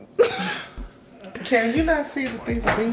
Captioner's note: laughing